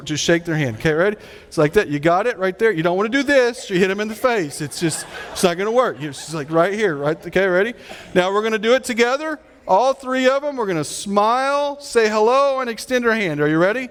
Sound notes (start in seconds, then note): 3.2 audience laughing